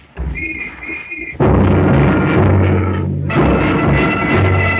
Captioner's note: explosions; whistle blows; bagpipes playing